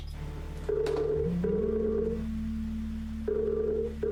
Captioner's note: phone ringing